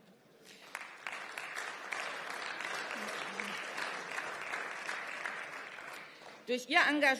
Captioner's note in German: Beifall